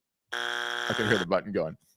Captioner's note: buzzer beeps